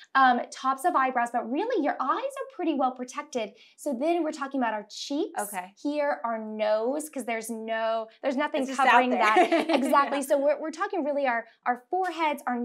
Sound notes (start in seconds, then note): 8.8 laughs